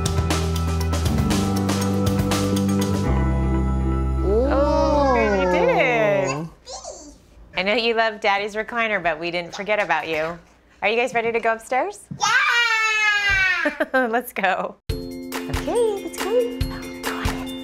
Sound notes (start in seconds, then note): 14.8 laughs